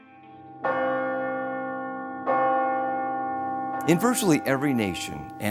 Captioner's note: bell ringing